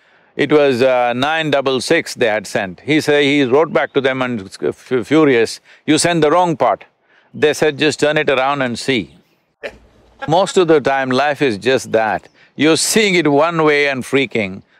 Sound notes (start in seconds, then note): 10.1 Matthew laughs